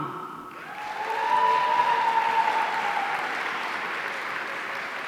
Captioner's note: audience cheering